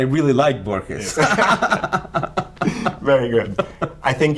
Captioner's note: laughter